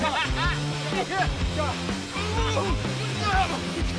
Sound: laughter

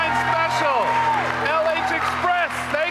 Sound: audience applauding; audience cheering

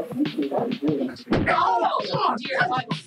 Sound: chair smack

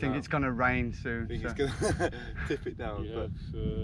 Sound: laughs

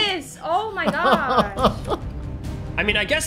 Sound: suspenseful music; chuckles

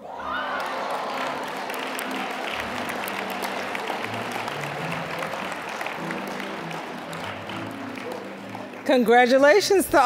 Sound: applause

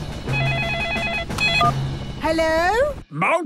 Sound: phone ringing; phone beeping

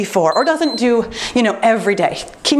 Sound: timer beeps

